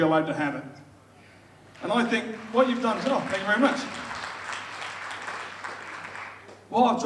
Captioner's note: audience applauds